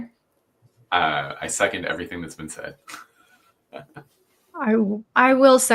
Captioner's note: laughing